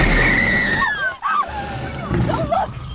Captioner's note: Jessica Screams